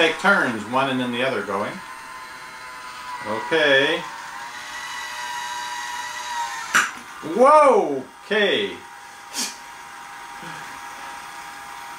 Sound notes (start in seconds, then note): 4.4 motor sound and popping of lid; 9.8 motor